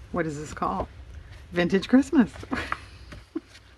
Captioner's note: laughs